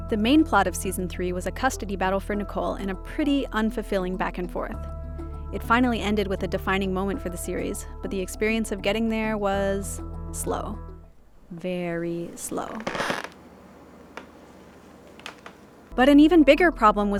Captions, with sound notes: The main plot of season three was a custody battle for Nicole, in a pretty unfulfilling back-and-forth. It finally ended with a defining moment for the series, but the experience of getting there was slow, very slow. (floorboard creaking) But an even bigger problem